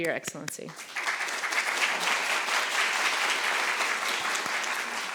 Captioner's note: audience applauding